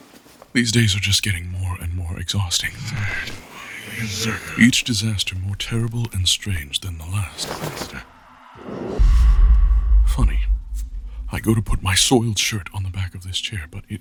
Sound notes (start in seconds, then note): 2.7 Chartrulean's voice reverberates and moves around the space, hauntingly unstable; 7.1 clothes rustling and being thrown